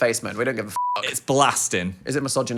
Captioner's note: beep